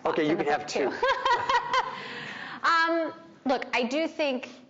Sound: Emily laughing

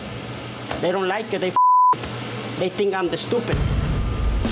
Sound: beep

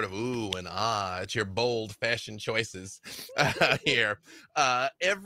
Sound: laughs

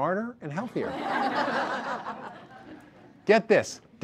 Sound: audience laughter

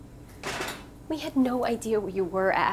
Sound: kettle thudding

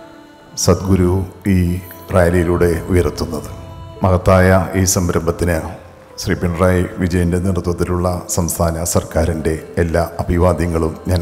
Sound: Speaks in Malayalam – not transcribed

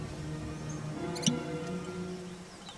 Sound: removing cork

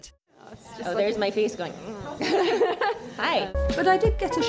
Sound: laughter

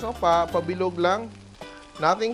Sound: sizzle

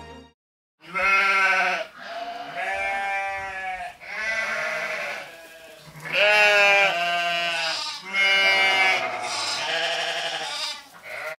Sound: sheep baaing

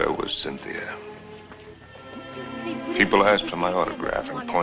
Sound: chattering

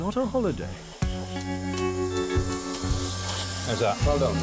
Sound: blow torch whistling

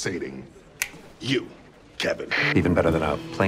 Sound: walkie talkie static

